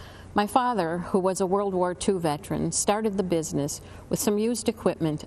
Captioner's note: none